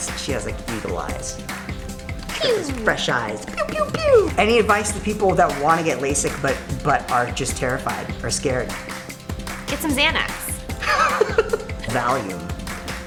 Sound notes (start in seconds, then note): 2.4 laser noises; 2.4 laser sounds; 10.8 laughs